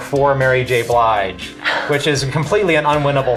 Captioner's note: laughs